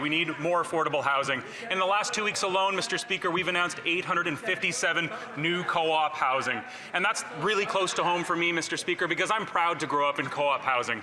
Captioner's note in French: voix de l'interprète